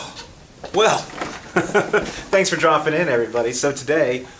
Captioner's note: laughs